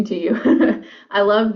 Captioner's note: laughs